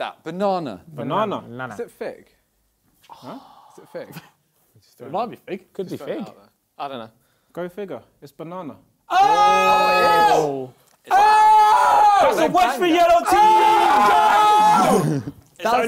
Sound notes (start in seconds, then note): 9.1 crowd cheering; 11.0 screaming